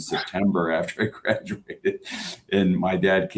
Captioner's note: laughter